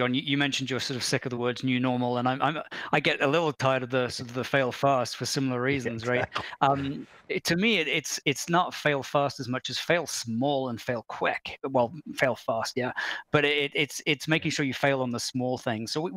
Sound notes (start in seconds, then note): 6.0 chuckles